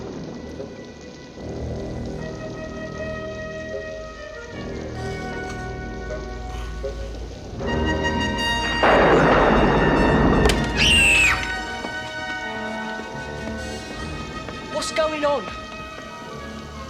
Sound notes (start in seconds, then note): 5.2 snoring; 9.3 thunder booming; 10.6 screams